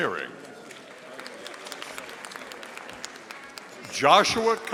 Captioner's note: audience applauding